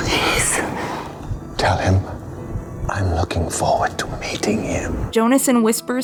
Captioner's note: whispers